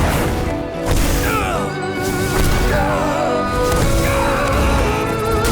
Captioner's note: groaning